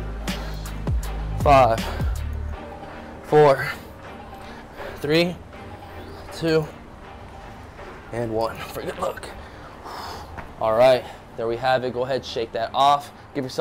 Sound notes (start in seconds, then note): 9.2 exhales